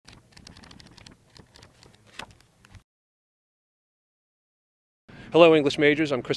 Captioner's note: book pages flipping